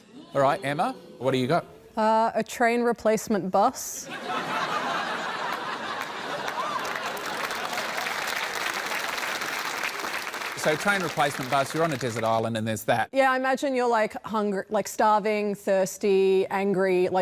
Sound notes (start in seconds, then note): 4.1 laughter and applause